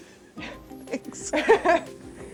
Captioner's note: laughs